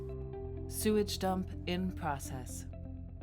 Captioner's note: computer Voice